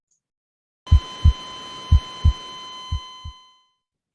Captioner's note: holter beeping